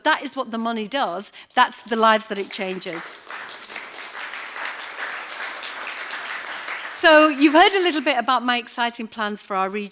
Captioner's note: applause